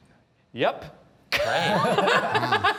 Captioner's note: judges chuckling